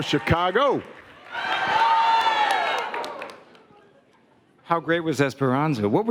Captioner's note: audience cheering